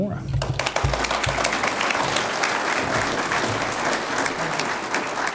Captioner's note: audience applauds